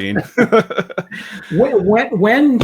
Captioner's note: laughing